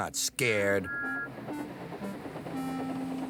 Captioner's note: toot toot